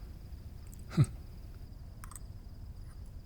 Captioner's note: tinkering jewelry sounds